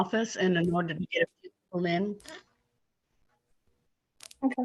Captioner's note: static audio